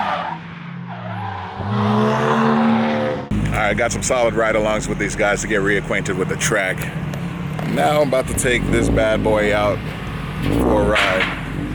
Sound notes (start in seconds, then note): 0.0 engine revs; 0.2 tires squealing; 2.2 engine revs